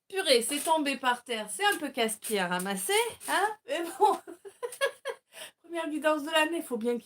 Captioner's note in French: rires